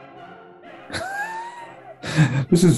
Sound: sniggering

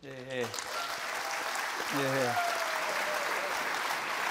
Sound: cheers and applause

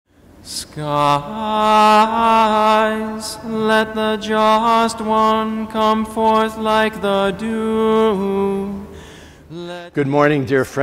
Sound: chanting

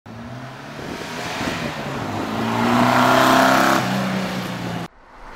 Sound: vrooooom Vroooooooom

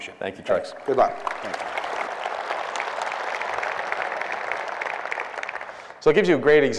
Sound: applause

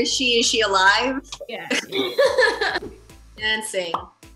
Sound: laughing

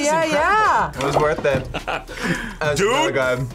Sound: laughs

